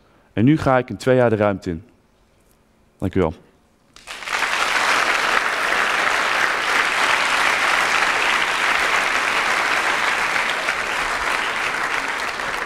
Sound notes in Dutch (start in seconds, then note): 3.9 Applaus